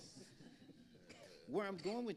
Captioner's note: audience laughing